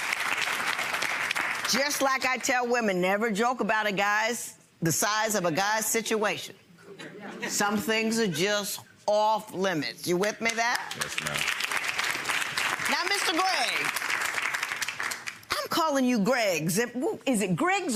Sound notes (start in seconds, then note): 12.2 applause